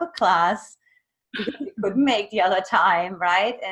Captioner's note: laughs